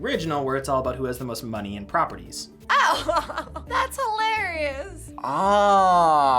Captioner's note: laughs